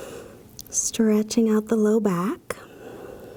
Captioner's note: breathing deeply; exhales deeply